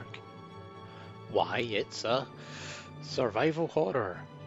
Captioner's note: deep breath